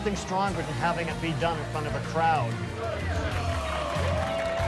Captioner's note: crowd cheering